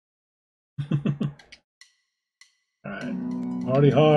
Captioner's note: chuckles